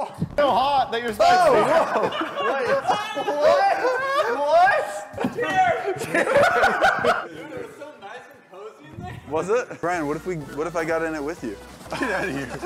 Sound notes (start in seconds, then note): 2.9 laughs; 5.6 laughter